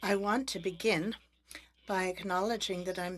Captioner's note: speaking French